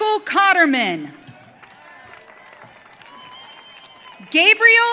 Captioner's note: audience cheering